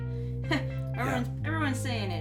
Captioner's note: laughs